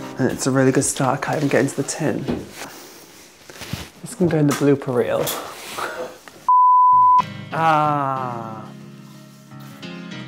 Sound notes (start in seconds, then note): 6.5 beep